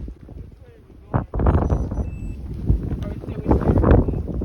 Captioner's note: watch Beeps